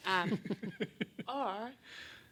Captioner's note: laughing